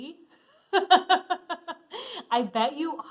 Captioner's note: laughing